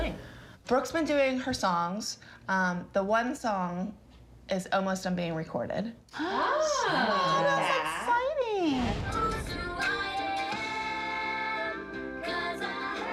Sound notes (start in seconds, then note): 5.7 gasps; 9.4 singing